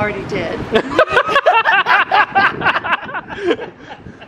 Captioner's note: pair laughing